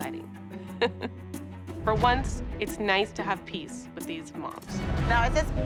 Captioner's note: chuckles